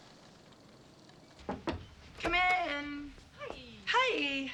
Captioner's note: knock on door